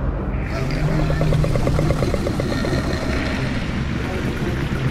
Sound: Scorpius Rex low growls

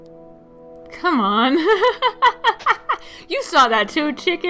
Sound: laughs

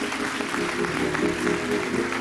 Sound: applause

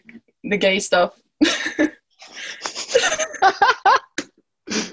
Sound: chuckling

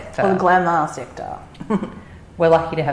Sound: laugh

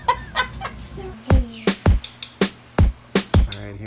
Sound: laughing; child vocalizing; upbeat pop music

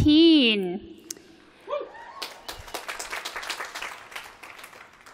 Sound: applause

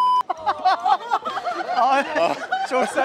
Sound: laughter

